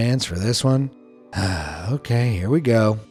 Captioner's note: sigh